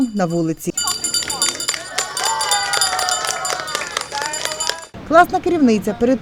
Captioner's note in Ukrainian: Лунає дзвоник